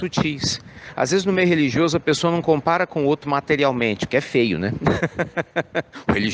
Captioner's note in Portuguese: risos